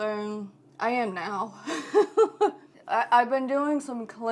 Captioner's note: laughing